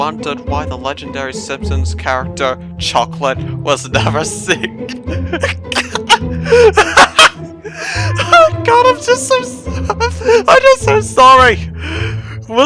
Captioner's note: cracks up laughing; cracks up again